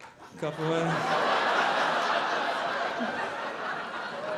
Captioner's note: audience laughing